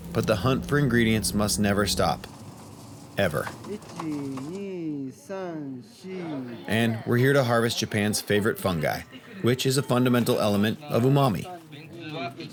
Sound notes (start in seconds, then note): 4.0 man speaking Japanese; 12.3 man speaking in foreign language